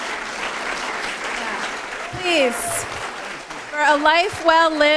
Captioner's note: applause